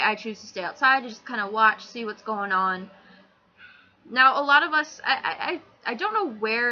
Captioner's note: deep breath